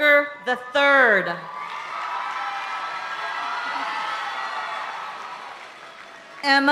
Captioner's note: audience applauding and cheering continues